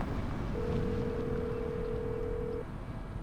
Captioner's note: phone ringing